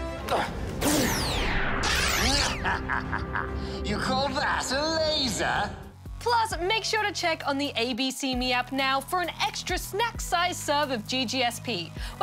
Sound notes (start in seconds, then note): 2.3 cackles